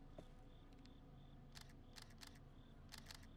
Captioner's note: camera shutter clicking